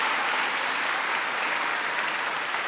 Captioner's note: applause